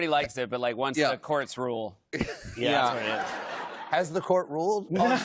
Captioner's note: laughter